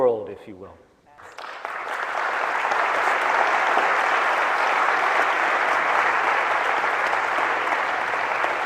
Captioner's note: applause